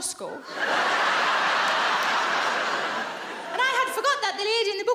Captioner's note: audience laughs